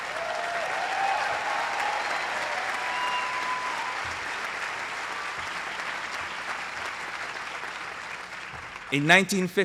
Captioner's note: applause